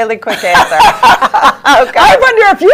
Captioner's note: both laugh